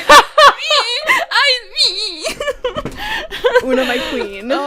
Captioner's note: laughs; noises of protest; laughter